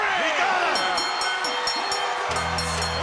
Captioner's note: bell ringing